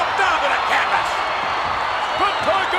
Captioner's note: audience cheers